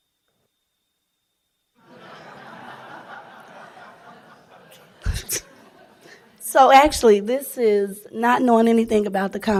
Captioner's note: laughing